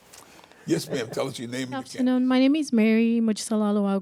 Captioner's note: laughs